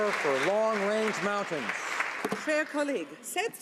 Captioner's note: applause